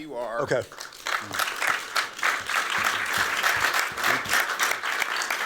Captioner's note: applause